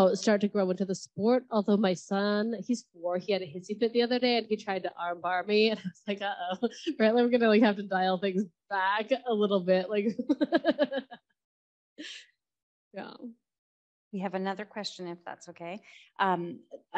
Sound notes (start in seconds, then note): 10.2 laughs